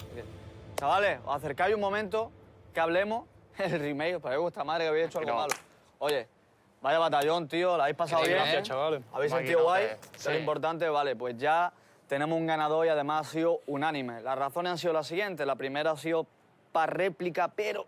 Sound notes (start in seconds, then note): 3.4 laughs